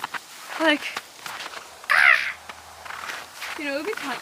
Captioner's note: joyous crow noise